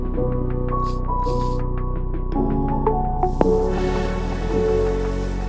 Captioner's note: spray can hissing